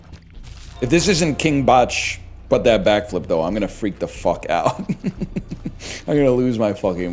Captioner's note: chuckles